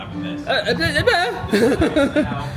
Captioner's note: blubbers